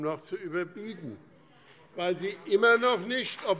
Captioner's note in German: Beifall BÜNDNIS 90/DIE GRÜNEN und CDU